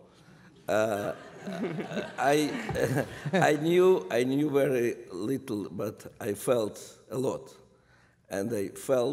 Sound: laughter

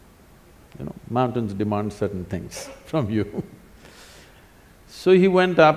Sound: laughs

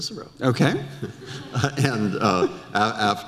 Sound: audience laughter

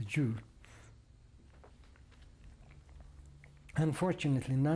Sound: pauses for 3 seconds

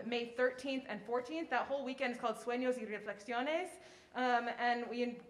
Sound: speaking in foreign language

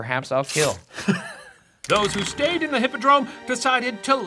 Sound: laughs

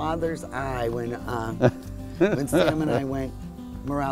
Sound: laughs loudly

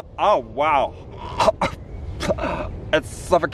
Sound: gagging

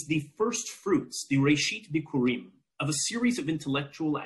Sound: speaking in foreign language

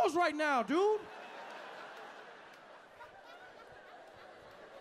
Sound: audience laughing

